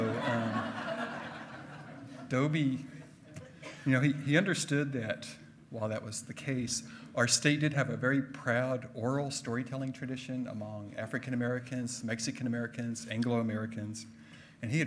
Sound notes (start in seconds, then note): 0.0 hearty laughing